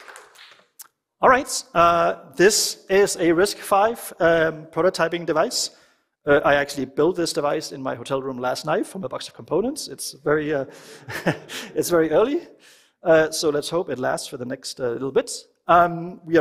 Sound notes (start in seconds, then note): 10.8 laughter